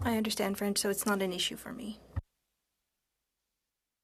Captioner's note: speaking French